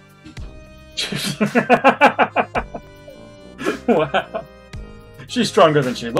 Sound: laughs

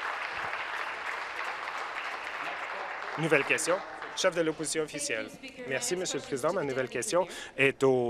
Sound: applause

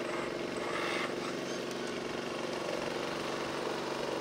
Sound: engines rumbling

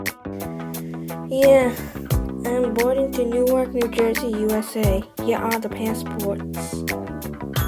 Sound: New Jersey accent

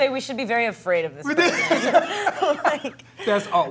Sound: all laughing

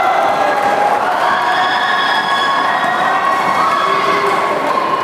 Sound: applause

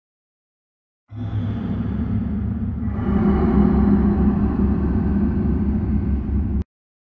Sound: sound of monster

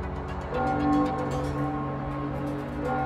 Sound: church bells

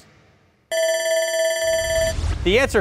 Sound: buzzer rings

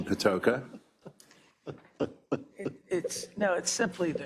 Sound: laugh

